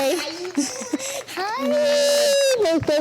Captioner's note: chuckles